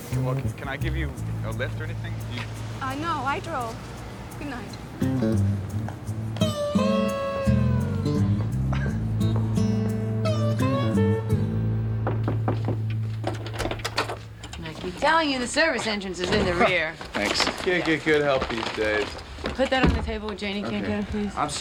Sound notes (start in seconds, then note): 12.0 knock at door